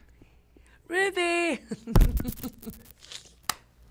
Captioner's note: laughter